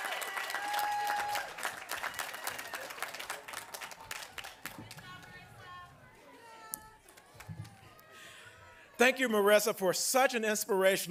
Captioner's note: applause